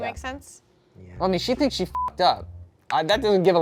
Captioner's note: beep